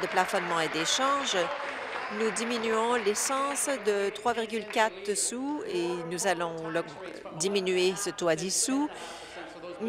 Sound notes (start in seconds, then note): 3.5 applause